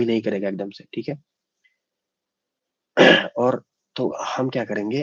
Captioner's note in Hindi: गला साफ़ करने की आवाज़